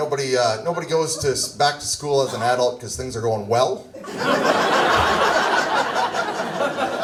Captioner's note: audience laughs